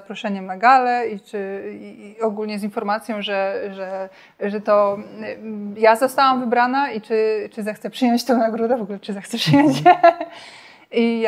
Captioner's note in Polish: śmiech